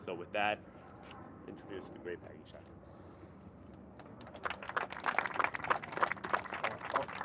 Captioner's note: applause